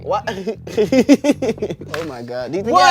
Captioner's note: everyone laughs